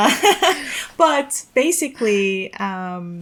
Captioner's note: chuckles